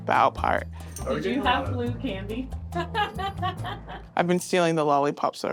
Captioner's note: laughing